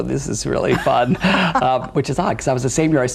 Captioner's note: both laugh